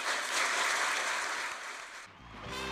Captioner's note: applause